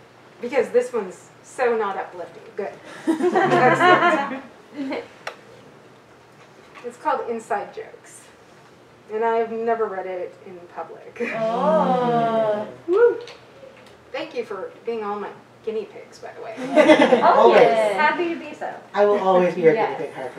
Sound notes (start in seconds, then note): 3.0 audience giggles; 11.3 audience oohs and short woo